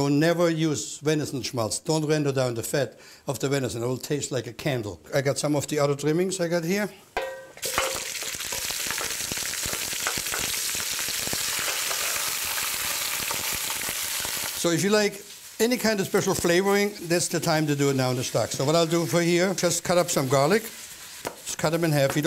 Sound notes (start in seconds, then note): 9.2 sizzling